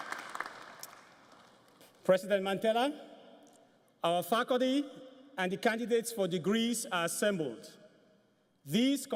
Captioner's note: applause